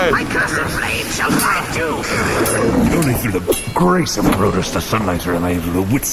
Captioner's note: clashing